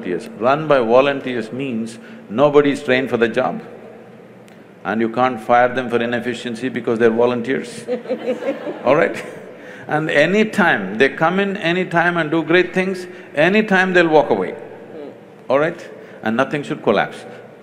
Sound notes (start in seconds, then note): 7.7 laughter; 7.8 laughs